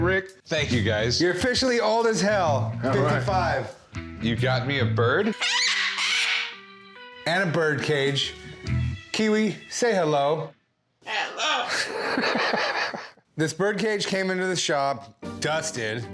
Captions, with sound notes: - Thank you, guys. - You're officially old as hell. - All right. - 55. - You got me a bird? - [squawks] - And a birdcage. Kiwi, say hello. - Hello. - [laughs] - This birdcage came into the shop dusted,